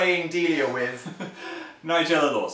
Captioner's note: chuckles